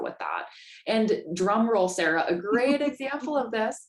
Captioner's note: laughter